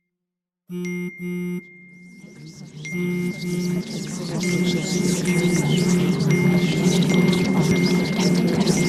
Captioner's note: DEE's phone buzzes